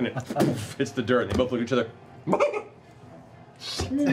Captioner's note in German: kichert